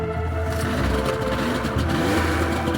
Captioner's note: snowmobile engine starting